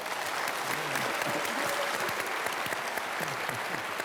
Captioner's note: applause